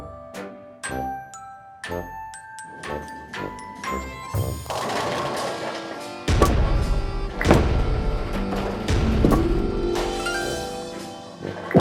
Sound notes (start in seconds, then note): 4.3 bowling pins falling; 5.3 calm music